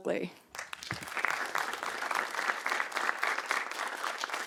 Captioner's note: participants clapping